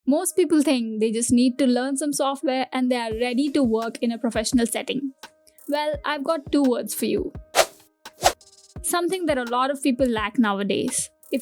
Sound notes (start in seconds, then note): 7.5 whiiish; 7.5 whoosh